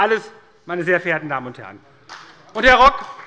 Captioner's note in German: Beifall bei der SPD - Zurufe von der FDP